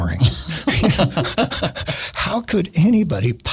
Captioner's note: laughing